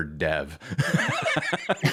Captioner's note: laughter